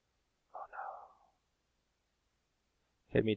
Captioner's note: whispers